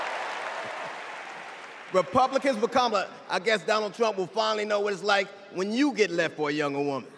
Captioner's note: cheers and applause